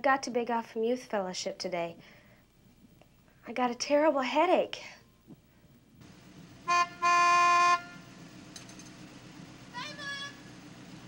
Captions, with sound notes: I've got to beg off from youth fellowship today, I got a terrible headache. (car horn honks) Bye mom!